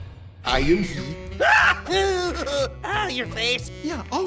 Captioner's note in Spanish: Giovanni grita